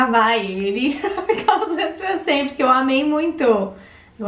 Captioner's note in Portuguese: rindo